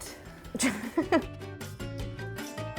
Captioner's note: laughs; fun music